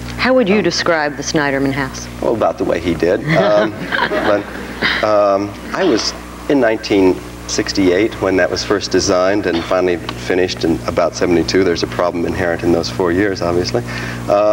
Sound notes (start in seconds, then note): 3.1 audience laughs